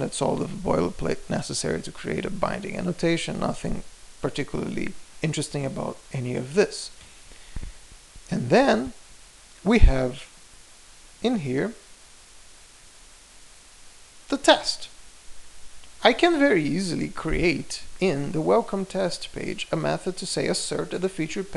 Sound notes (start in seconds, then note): 13.2 pause